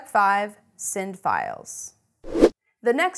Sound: air rushes

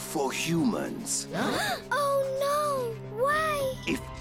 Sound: all gasp

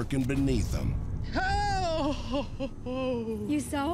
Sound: gasping

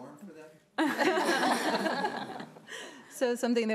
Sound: laughing

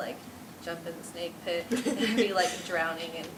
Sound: laughter

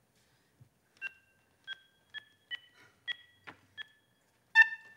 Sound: keypad beeps

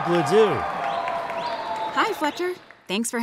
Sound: audience cheering

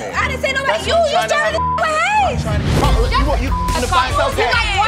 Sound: beep

